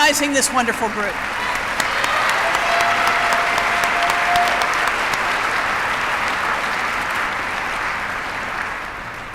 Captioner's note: applause